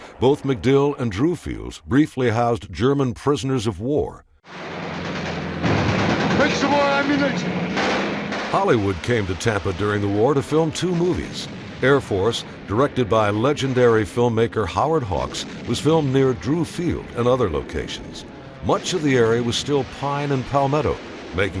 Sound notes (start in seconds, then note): 4.8 guns firing